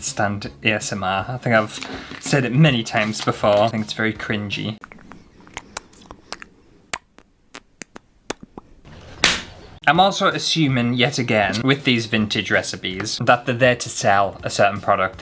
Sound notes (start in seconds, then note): 4.8 lip Smacking Sounds